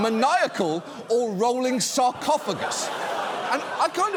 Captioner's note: audience laughing